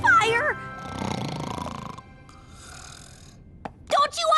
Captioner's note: snoring